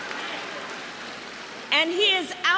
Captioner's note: cheering